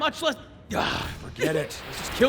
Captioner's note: groans